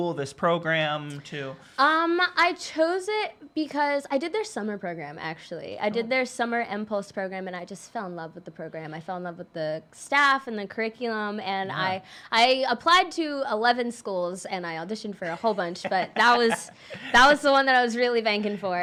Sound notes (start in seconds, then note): 15.2 laughing